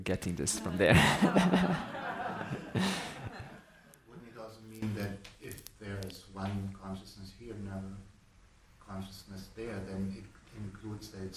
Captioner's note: audience laughing